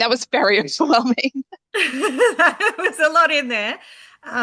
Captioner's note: both laughing